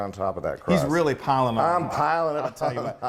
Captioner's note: laugh